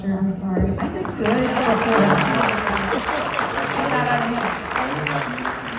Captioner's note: applause